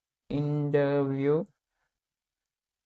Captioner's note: voice-over in English